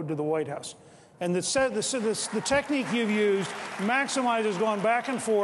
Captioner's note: cheering and applause